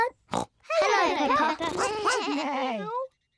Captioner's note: all make animal noises